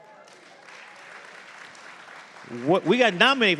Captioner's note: audience applauding